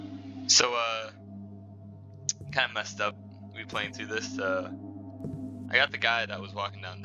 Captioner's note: clicks tongue